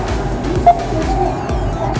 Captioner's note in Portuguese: beep